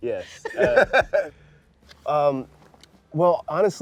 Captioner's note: laughs